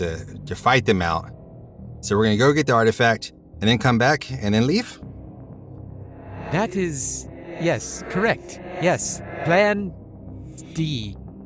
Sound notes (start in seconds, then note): none